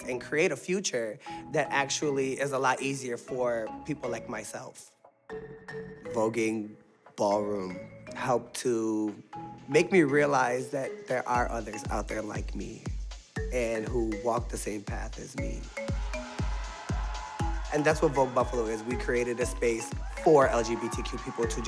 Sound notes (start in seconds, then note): 15.9 audience cheering